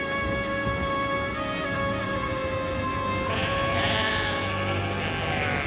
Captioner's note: goats bleating